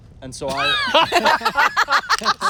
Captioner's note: laughter